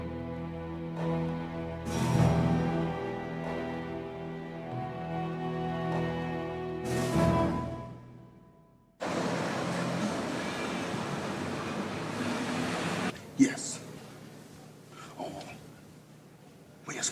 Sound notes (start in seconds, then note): 9.0 car engine